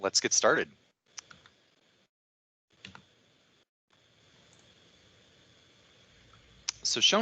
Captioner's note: silence